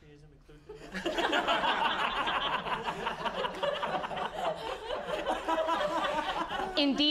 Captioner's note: audience laughing